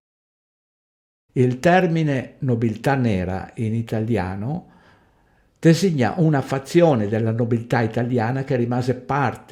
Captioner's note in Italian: in italiano